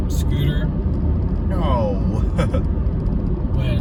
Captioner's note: chuckles